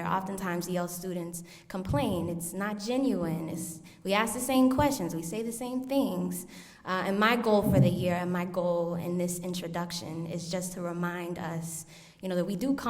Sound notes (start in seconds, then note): none